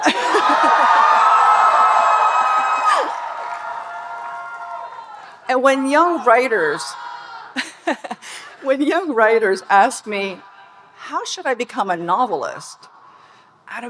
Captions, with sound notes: (audience cheering and applauding) And when young writers ... (Speaker laughing) (audience cheering) When young writers ask me, "How should I become a novelist?",